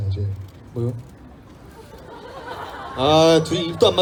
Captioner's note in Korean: 웃음